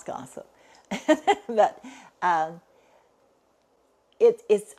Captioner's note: laughs